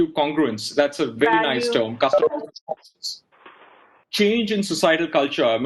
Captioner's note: audio blurs